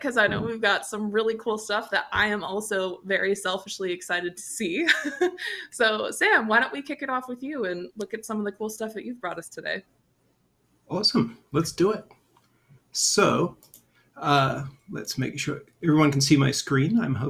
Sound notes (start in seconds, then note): 4.9 chuckles